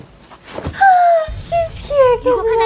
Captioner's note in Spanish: Sonido de hada